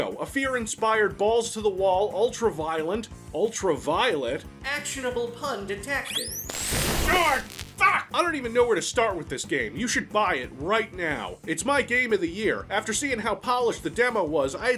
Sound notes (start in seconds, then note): 6.0 electric shock